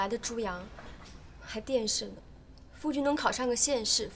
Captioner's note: sounds like TV in Chinese